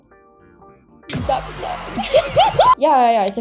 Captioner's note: laughs